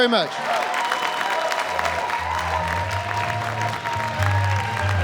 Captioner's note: cheering and applause